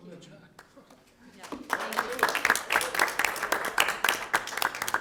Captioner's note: audience applause